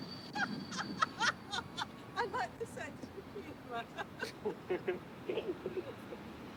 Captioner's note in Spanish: risas